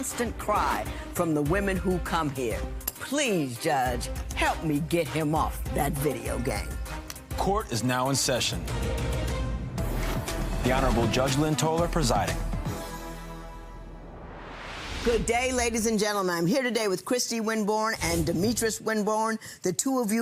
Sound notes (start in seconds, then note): 9.7 dramatic music; 13.8 whooshing